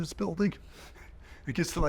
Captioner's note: chuckling